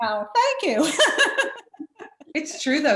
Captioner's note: laughs